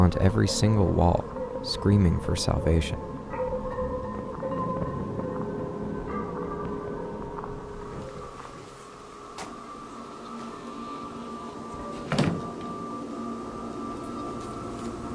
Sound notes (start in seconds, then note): 5.2 anticipating music; 12.0 lid thuds